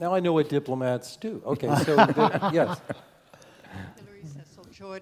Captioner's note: laugh